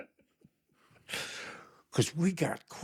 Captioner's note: laughing